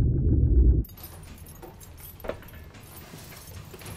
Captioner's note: chain clanking